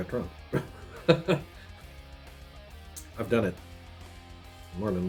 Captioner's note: laughs